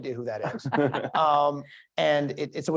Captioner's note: laugh